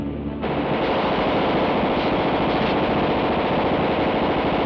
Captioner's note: gunfire rattles